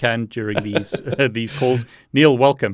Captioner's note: laughing